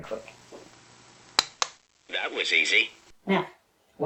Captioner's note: click